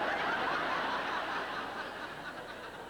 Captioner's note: laughter